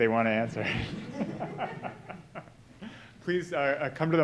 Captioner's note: audience laughing